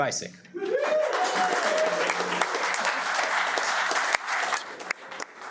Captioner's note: audience applauding